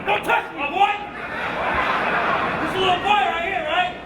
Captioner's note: laugh